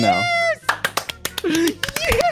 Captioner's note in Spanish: aplauso